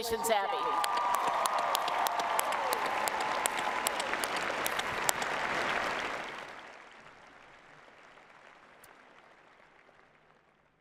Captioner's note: applause and Cheering